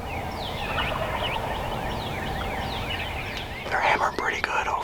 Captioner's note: turkey gobbles